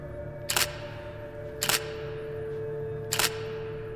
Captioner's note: camera clicking